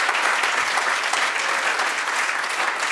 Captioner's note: audience applauds